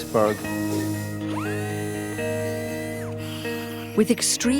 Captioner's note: surgical saw humming